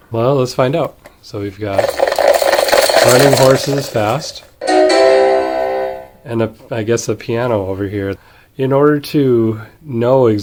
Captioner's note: sound of horses galloping